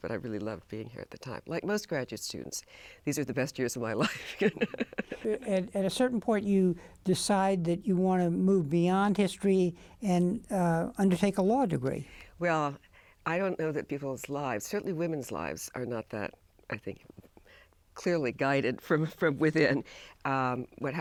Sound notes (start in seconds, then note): 4.1 laughs